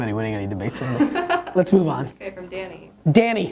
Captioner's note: laughter